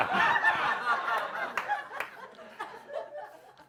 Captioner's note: laughter